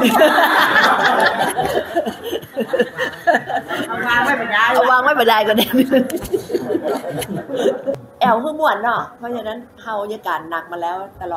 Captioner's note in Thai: เสียงหัวเราะ